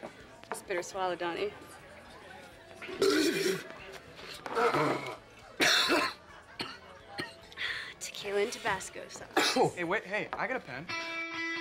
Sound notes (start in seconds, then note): 5.6 coughing